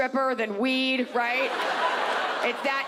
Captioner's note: audience laughs